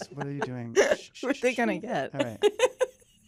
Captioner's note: laughing